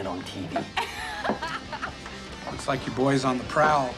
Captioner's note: laughs